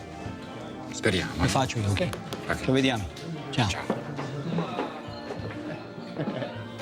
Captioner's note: bartender speaking foreign language; both speaking foreign language; light music; people chattering